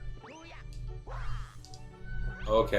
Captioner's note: gaming sounds